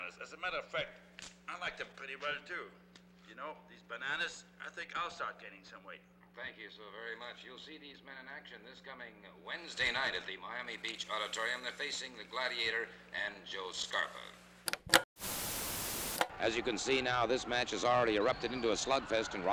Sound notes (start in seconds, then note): 14.6 television clicks; 15.2 static crackles